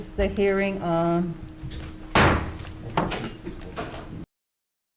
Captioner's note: gavel banging